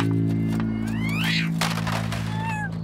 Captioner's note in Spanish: Se escucha gato maullando